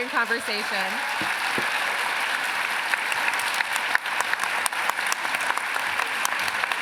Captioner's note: applause